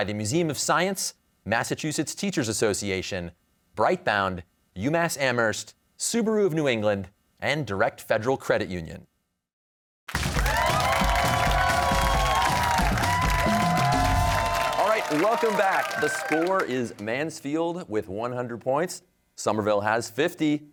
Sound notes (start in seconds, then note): 10.1 cheers and applause